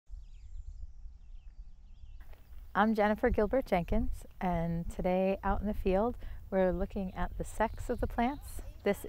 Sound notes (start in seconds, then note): 0.6 birds chirping